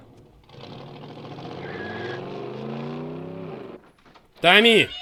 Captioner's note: tires screeching